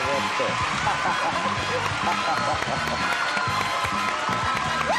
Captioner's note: audience applauding loudly